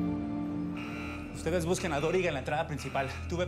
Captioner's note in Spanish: sonido de la alarma